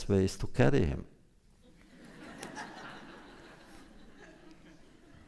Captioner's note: laughter